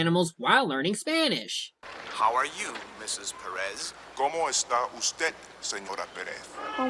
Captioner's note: Spanish